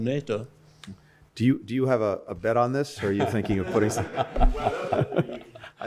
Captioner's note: laughter